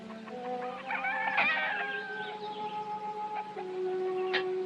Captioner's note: rooster Crowing